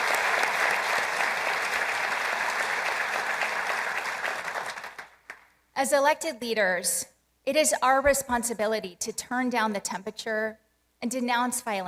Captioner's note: applause